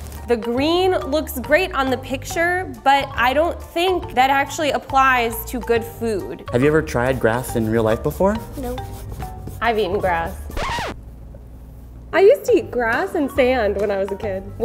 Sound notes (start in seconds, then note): 10.5 record scratches